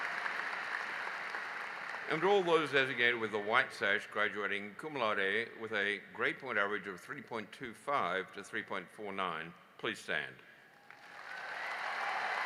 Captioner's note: applause